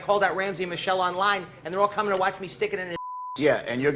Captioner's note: beep